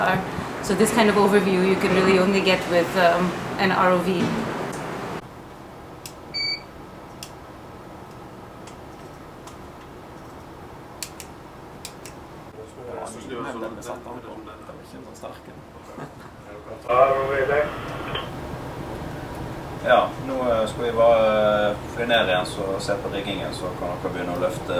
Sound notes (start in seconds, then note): 12.6 chatting; 17.0 in Norwegian, over the radio